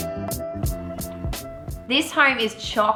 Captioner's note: sips